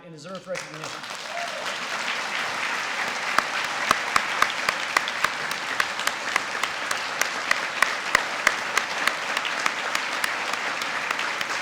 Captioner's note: applause